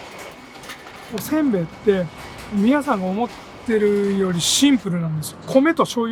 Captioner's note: speaking in a foreign language